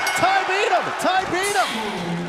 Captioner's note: bell